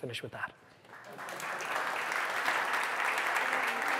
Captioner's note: applause